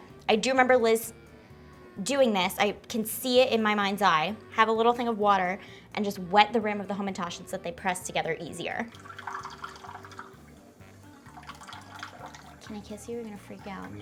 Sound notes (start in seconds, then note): 8.9 water trickling; 8.9 whimsical klezmer music